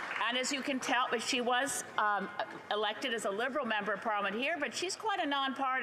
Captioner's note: applause